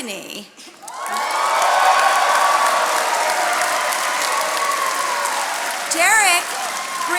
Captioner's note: attendees cheering and applauding